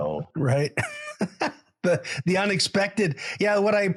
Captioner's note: laughs